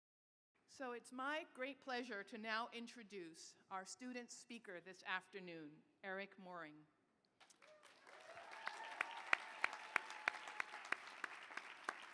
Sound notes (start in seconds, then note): 7.4 applause